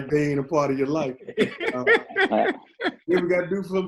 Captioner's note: all laughing